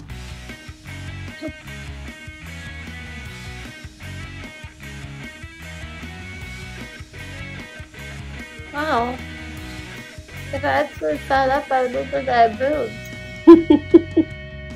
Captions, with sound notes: Wow If I actually sat up, I would look like I have boobs. *laughing*